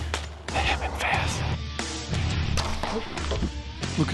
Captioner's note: whispering